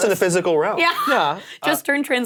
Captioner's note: laughs